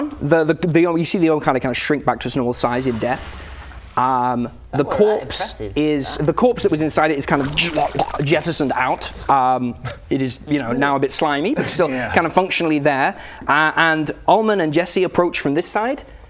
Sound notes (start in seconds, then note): 7.9 jrrcrraaghh